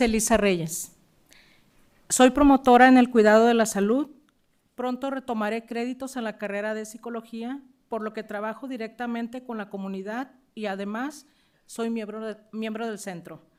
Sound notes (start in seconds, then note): 2.3 speaking spanish